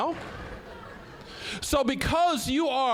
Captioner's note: scattered laughing